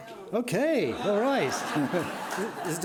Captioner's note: audience laughing